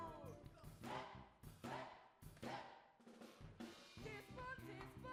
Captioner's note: students chant